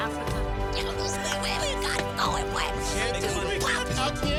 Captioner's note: excited muttering